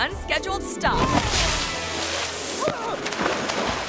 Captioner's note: grass crunches; groans